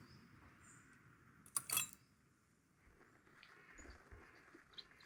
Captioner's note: clinking